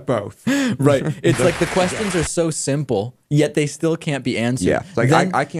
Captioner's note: laughs